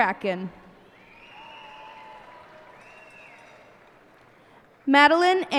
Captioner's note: cheers and applause